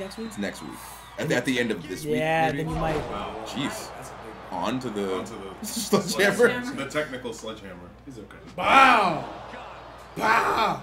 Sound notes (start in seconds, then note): 5.4 laugh